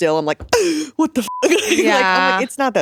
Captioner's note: beep